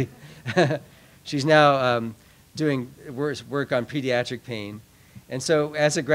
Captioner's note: laughs